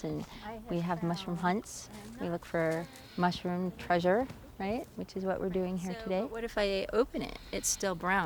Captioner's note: none